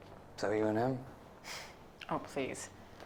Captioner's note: scoffs